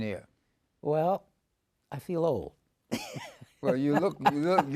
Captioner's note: laughs